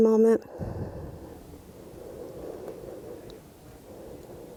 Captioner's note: breathing deeply